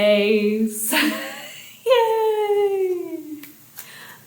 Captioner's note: chuckling